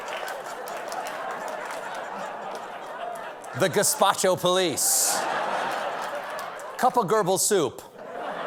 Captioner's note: laughter